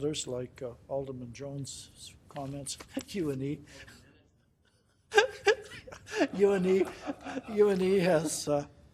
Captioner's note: laughing